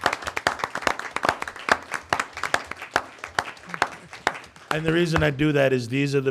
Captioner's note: applause